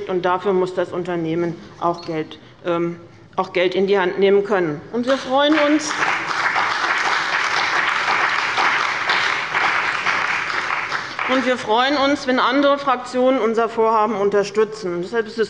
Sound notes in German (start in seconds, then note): 5.0 Beifall bei dem BÜNDNIS 90/DIE GRÜNEN und der CDU